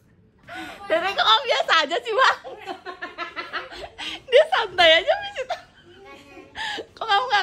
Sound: laughing

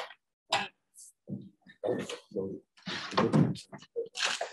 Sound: chattering

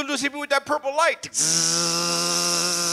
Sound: buzzes

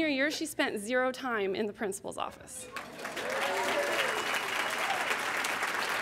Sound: applause; cheers

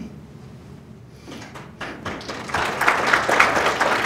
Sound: audience clapping

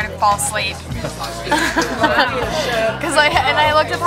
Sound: laughter

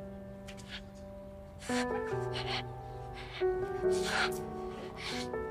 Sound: heavy breathing

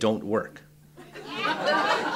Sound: laughter

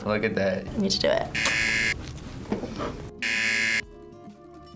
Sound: buzzer rings

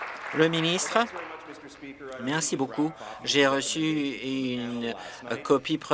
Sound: applause

